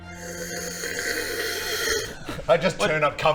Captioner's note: slurp